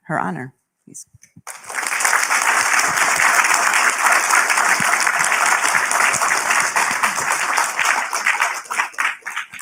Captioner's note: applause